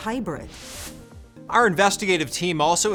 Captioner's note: transition whooshes